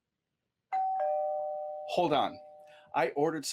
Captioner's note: doorbell rings